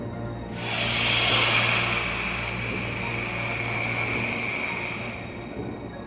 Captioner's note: tense music; vampire hissing